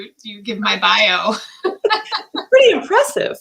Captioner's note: laughter